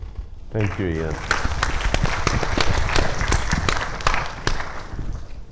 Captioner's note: audience applauding